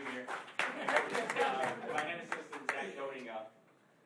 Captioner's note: laughing